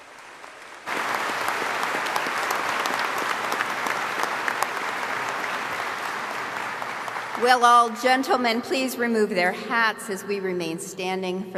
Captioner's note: applause